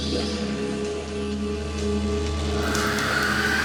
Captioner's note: white noise